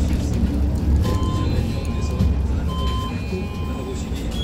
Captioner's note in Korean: 하차벨 소리